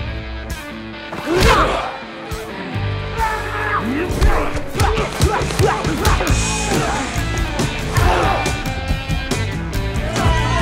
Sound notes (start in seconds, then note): 1.1 Knox grunts; 3.2 Knox screams